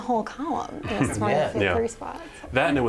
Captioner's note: laughter